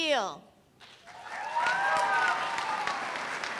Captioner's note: cheers and applause